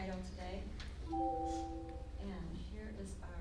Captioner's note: computer beeps